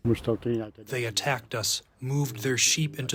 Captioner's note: through translator